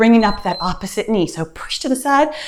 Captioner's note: timer beeps